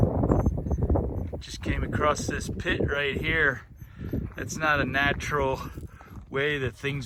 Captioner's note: birds cheeping; wind noise